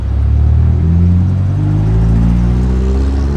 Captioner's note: engine Revving